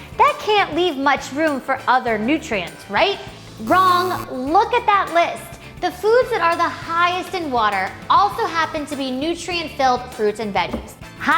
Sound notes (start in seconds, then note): 3.6 buzzer plays